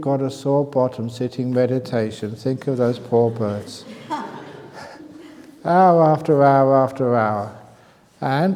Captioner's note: laughs